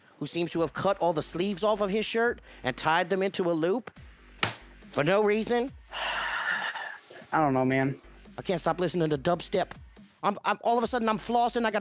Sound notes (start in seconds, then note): 4.4 smacking; 5.9 sighing